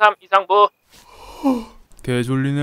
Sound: sigh

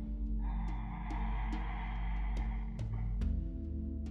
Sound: inhales

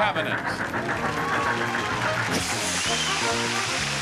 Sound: audience applauding

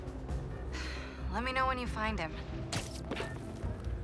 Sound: sigh

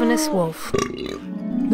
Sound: Wolf burping

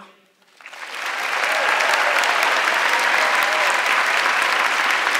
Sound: audience clapping

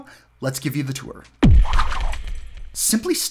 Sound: whoosh

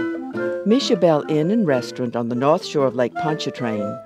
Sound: voiceover

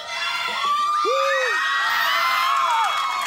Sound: audience members screaming

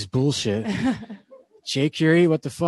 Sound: laughing

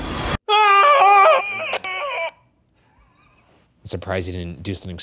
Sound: screaming

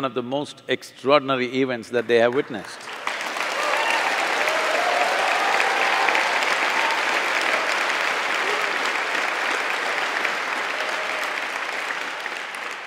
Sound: applause

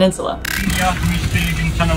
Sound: glitch sound effect

